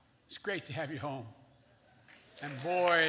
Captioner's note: applause